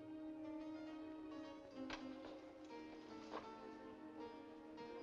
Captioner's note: balcony window opens